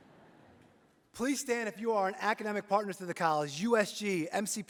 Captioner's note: laughter